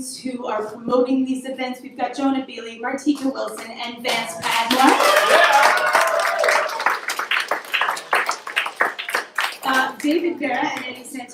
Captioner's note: applause